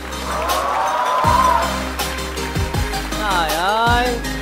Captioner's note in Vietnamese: Vỗ tay